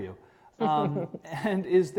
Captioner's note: laughing